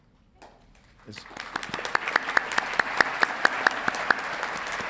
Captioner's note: audience clapping